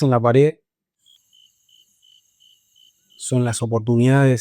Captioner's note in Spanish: grillos